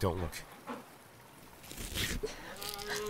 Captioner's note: stifled sob